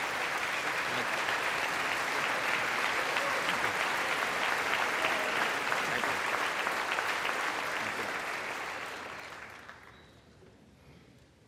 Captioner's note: applause